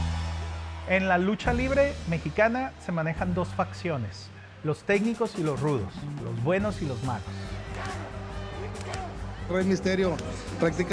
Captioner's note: Rey Misterio speaking Spanish; speaking Spanish